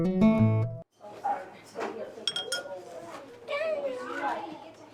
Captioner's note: chatter